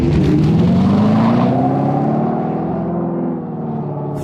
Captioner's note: Fratzonic roars